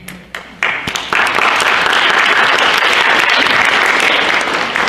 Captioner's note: audience applauds